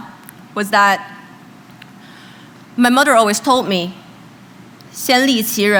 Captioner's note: speaking chinese